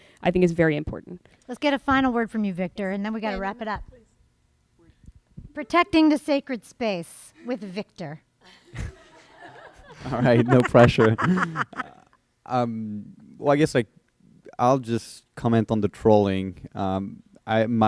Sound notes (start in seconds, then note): 8.5 laughter